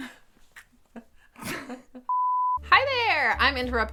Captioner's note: laughing